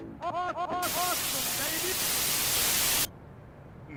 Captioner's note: static